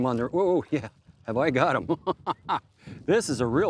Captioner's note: laughs